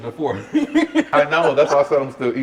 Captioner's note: laughs